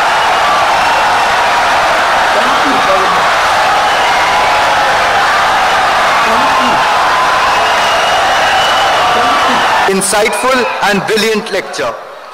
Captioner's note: wild applause and cheering for 17 seconds